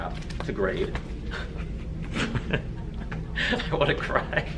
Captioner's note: laughs